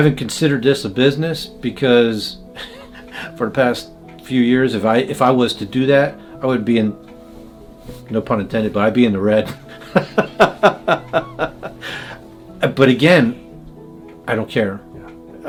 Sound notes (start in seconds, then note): 9.6 laughing